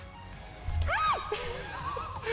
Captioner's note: squeal